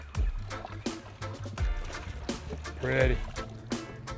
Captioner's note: fish splashing